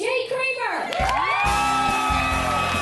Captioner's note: cheering and applause